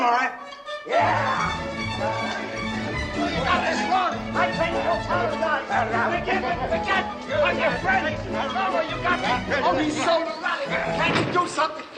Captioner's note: running and screaming